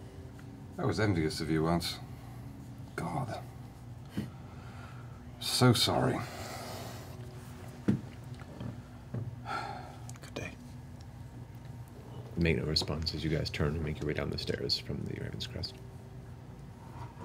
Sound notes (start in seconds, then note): 9.4 sighs; 9.7 whispers